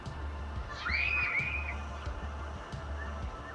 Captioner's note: kids screaming and playing